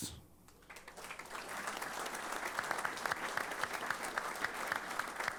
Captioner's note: applause